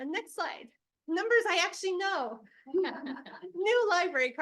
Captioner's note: board members laugh